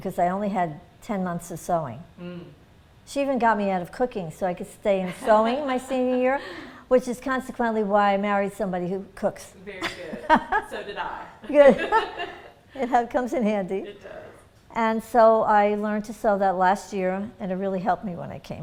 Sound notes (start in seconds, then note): 5.0 laughter; 11.4 laughter